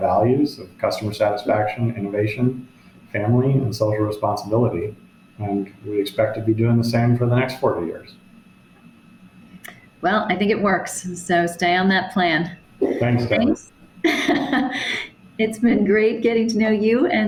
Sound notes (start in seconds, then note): 14.0 chuckles